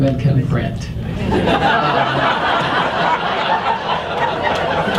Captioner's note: audience laughs